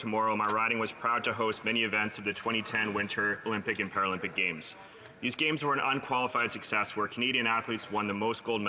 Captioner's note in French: voix de l'interprète